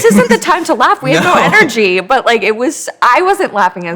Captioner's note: chuckling